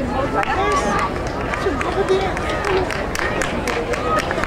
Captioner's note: crowd applauding